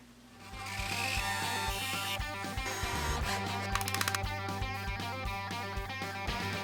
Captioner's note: tools whizzing; lively music